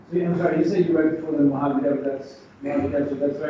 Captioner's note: speaks faintly